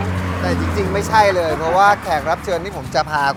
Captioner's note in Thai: หัวเราะ